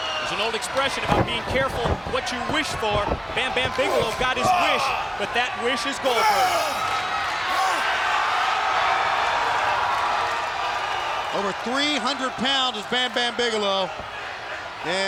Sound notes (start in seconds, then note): 6.5 Goldberg shouts